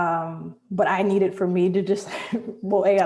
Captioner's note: chuckles